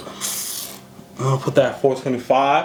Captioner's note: sipping